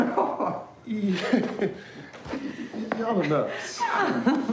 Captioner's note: Richard chuckling; chuckles; Adela laughing; Bobby laughing